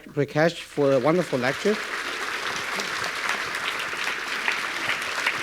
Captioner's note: audience clapping